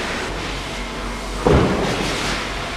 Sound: thuds

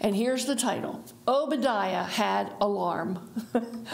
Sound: chuckles

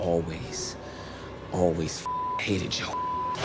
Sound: beep

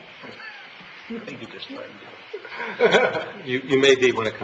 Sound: laughing

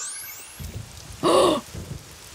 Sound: gasps

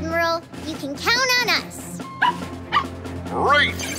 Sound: barking

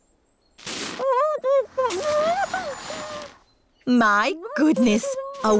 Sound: muffled groans

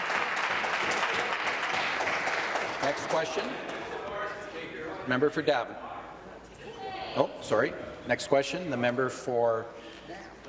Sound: applause

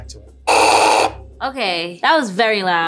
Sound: mill whirring loudly

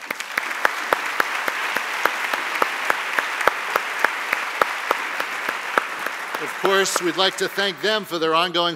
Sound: applause

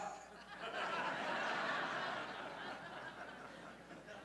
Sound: laughter

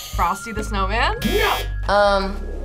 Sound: buzzer rings; buzzer

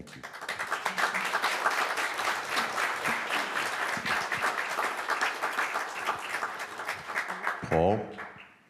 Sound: applause

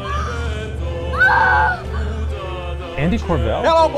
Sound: yelling

